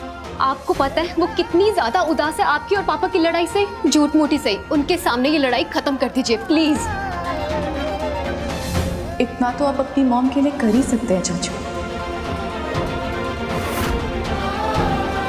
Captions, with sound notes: Do you know how dejected she is because of your fight with dad? Even if in pretence, just end this fight in front of her. Please! [emotional vocalising] You can do this much for your mom, uncle! [emotional vocalising]